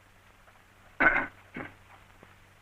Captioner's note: ahem